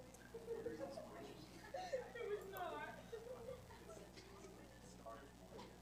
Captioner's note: indistinct background conversation